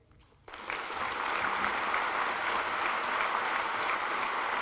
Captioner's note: applause